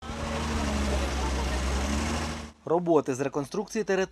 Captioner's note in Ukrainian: звук двигунів